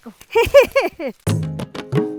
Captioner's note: laughs